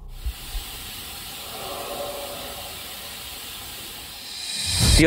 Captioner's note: voice yelling